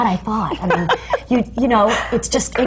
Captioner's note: laughs